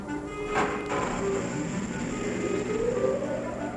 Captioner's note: whirring